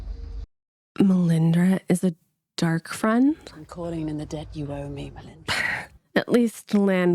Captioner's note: sighs